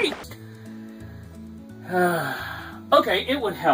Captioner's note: sigh